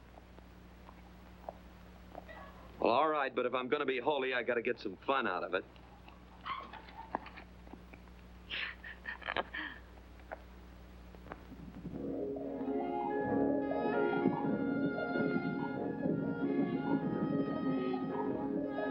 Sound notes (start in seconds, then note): 8.5 chuckles; 12.0 cheerful music